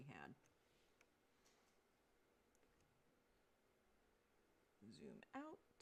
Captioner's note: mouse and keyboard clicking